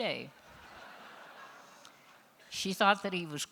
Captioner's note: laughter